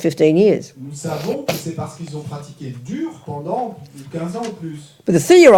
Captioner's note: French